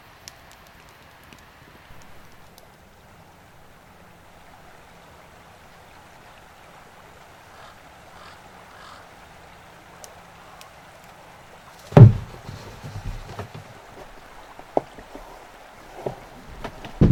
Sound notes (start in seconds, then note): 2.6 running water in the distance; 8.0 crow caws in the distance; 11.9 thump